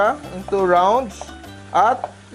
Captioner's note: sizzle